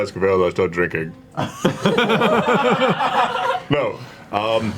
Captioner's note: all laugh